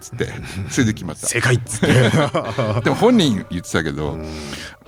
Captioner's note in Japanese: 笑い